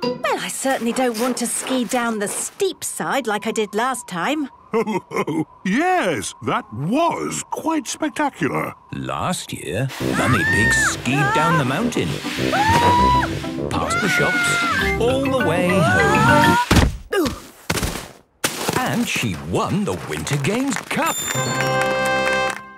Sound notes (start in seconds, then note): 12.5 screaming; 16.8 exclaiming and grunting; 21.2 triumphant music